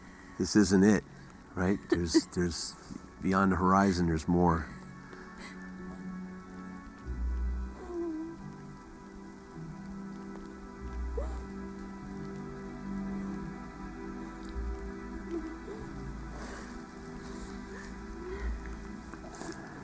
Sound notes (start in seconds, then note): 1.6 crying; 7.4 soothing music